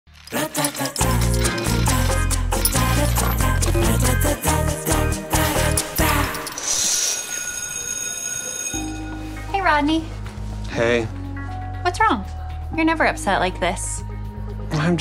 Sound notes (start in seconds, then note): 0.2 upbeat music; 5.8 bell ringing